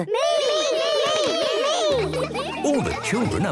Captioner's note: all calling out